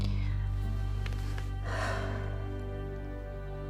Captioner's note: sighs